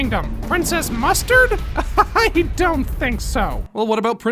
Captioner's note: laughs